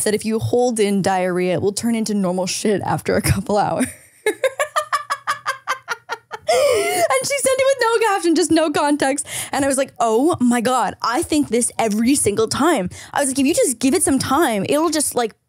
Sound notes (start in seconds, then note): 3.6 laughs